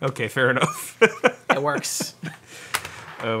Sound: laughs

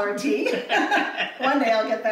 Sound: laughs

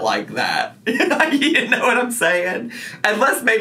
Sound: laughs

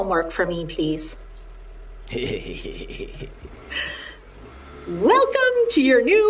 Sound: chuckling

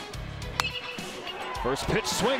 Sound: crack of the bat

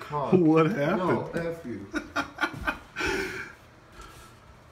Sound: laughter as he blindly feels his way toward bathroom

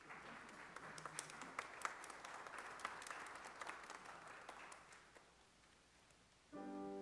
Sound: applause

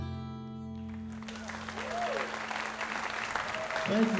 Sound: audience applauding

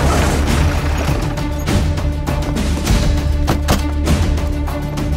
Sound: car doors open

